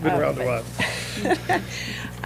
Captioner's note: laughter